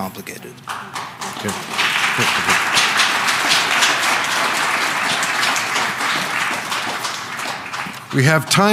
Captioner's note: applause